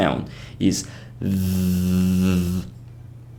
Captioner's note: vibration